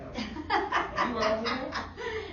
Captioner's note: laughter